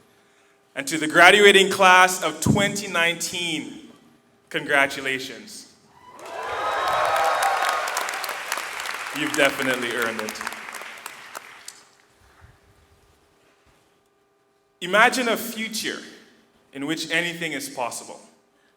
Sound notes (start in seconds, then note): 6.0 audience cheering and clapping